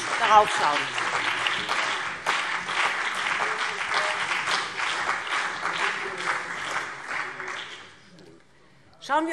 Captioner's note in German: Beifall BÜNDNIS 90/DIE GRÜNEN und CDU